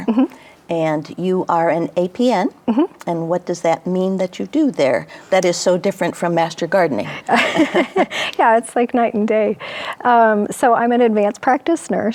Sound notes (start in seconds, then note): 7.2 chuckles; 7.2 laughs